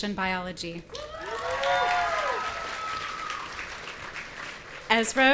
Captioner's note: audience cheering